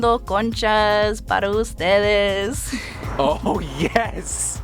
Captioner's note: speaking foreign language